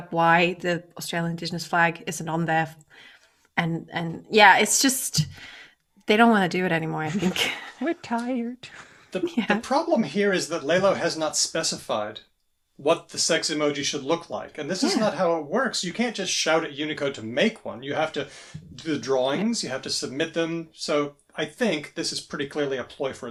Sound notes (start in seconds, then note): 7.1 laughter; 9.9 laughs